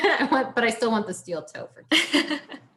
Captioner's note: laughs